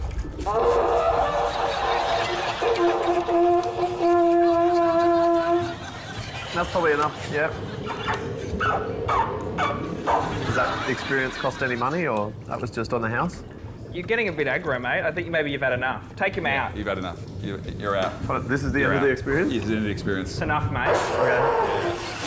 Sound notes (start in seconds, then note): 0.3 trumpet squeaks, toots; 8.1 squeaks; 20.9 trumpet gurgles